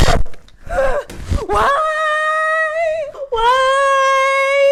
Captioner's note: crying